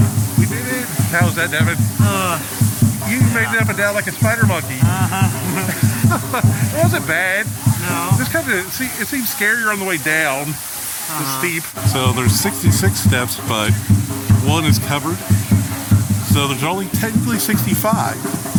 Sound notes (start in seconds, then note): 2.0 sighs; 5.8 chuckling